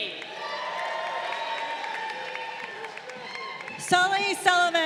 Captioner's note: crowd cheering